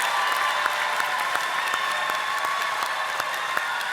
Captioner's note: audience applauding